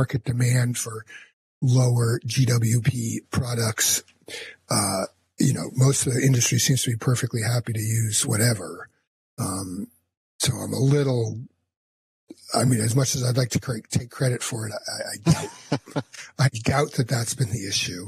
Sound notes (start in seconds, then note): 14.9 laughs